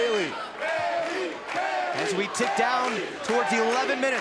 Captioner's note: crowd cheering